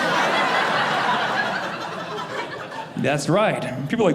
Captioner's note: audience laughing